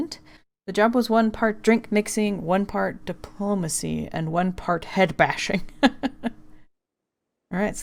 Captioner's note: laughs